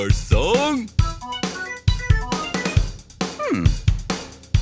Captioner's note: strange melodic noises